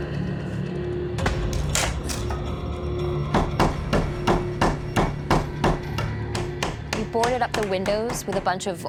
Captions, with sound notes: [hammer pounding] We boarded up the windows with a bunch of old wood